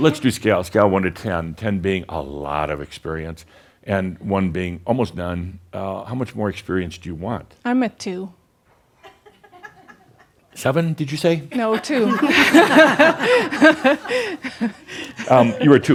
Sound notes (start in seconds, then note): 0.0 she chuckles; 11.0 a few giggles